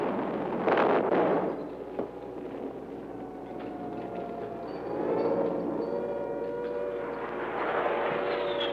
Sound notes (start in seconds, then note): 2.2 sirens